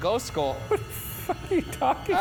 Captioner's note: laughing